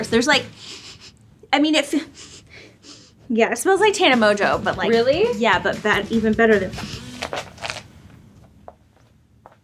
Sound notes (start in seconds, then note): 0.5 sniffs; 6.8 sniffs